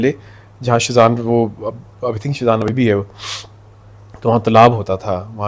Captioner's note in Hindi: नाक से की जाने वाली आवाज़